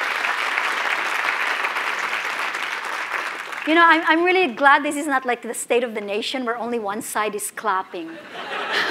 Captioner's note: applause